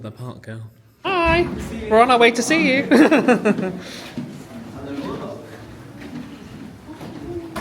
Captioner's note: laughs